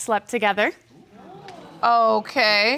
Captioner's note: audience murmuring